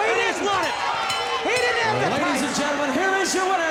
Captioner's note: bell ringing